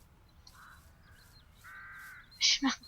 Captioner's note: bird calls